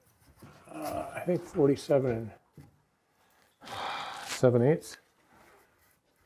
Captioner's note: sighs